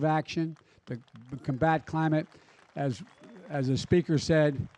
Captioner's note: applause